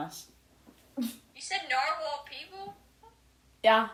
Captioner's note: snickers